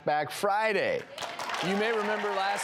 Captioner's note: audience applauds and cheers